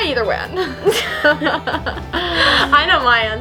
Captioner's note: laughing